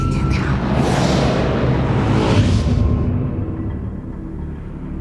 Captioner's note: magic booms; magic whirring